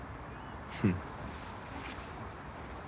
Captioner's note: he chuckles, softly